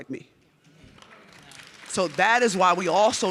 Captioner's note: audience clapping